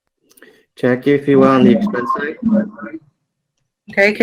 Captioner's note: speaks faintly